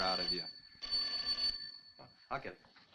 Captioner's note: telephone rings